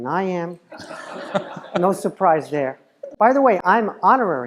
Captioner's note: laugh